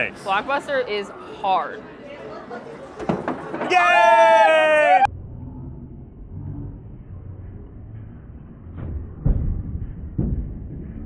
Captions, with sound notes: - Thanks. - Block Buster is hard. - Yay! - Oh, you did it! (slowed noises) (thumping)